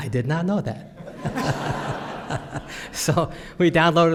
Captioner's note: laughter